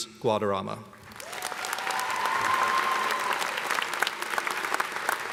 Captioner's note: cheers and applause